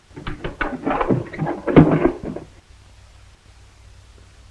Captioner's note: trunk clatters